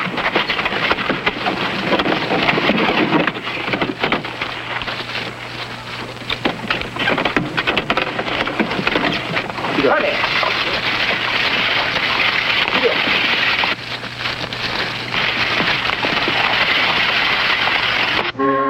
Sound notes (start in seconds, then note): 2.1 body clattering; 11.8 cartwheel clattering